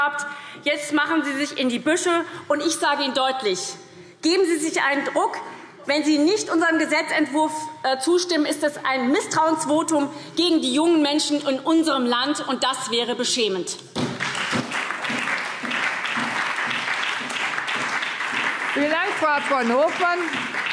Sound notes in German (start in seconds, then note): 14.0 Beifall SPD und Freie Demokraten